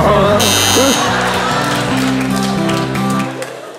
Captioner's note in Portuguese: campainha